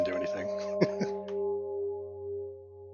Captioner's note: chuckling